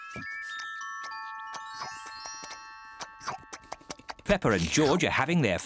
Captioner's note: munching